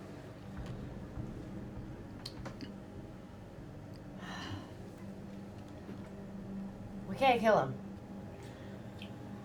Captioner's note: sighs